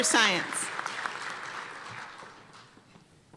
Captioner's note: applause